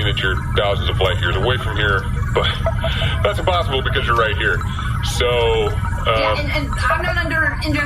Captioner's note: chuckling